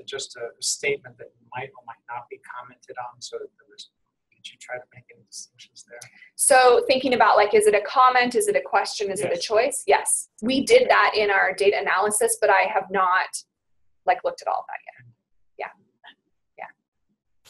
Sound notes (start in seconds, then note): 6.4 voiceover